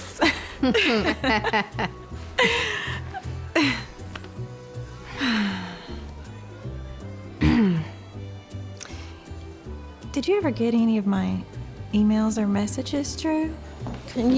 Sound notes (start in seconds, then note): 0.0 both chuckling; 7.4 clears throat